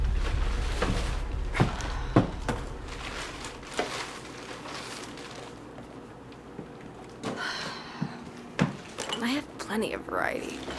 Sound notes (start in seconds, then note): 6.7 sighs